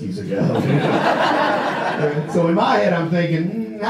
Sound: audience laughs

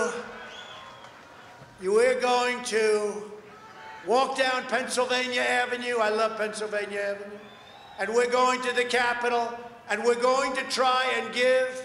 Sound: applause

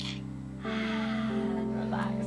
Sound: exhaling loudly

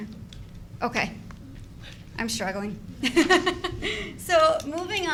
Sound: laughs

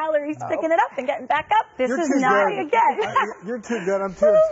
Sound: laughs

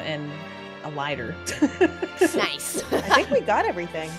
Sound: laugh

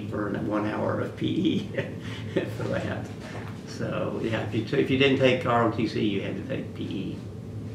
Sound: laughs

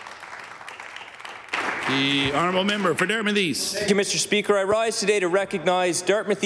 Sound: applause

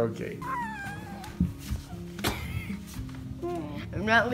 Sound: giggling

